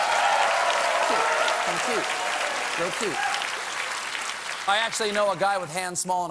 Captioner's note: cheers and applause